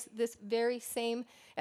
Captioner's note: none